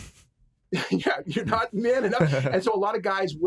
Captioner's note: laughs